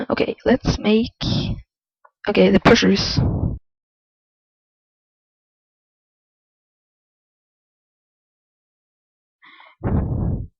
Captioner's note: audio cut